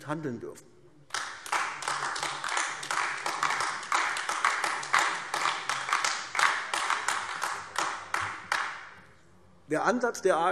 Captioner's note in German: Beifall AfD